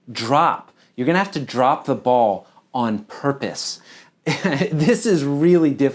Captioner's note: chuckles